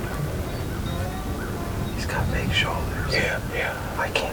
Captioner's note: whispering